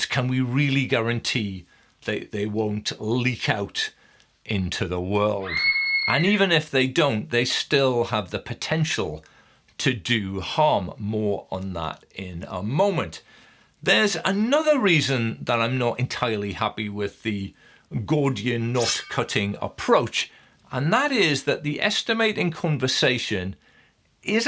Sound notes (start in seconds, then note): 5.4 child screaming; 18.7 slicing whoosh